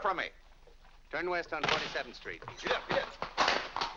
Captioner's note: door slams